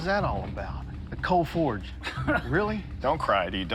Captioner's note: laughs